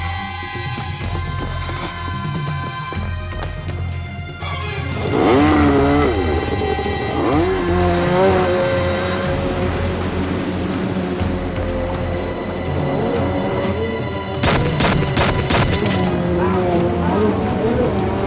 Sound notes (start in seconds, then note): 5.3 engine revs; 14.4 gun fires